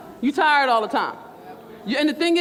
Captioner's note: crowd